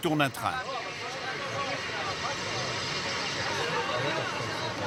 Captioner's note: French spoken audio